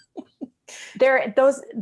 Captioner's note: laughs